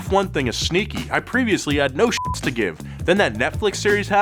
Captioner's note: beep